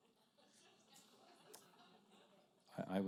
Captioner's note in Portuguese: risos da plateia